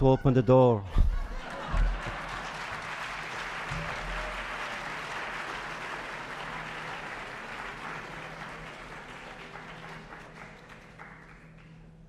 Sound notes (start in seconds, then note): 0.8 laughter; 1.4 applause